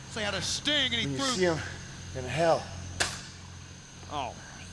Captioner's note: Vampiro spitting